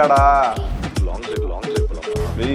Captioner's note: busy tone